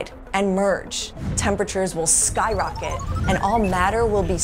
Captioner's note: thermometer beeping